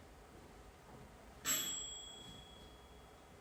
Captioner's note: bell rings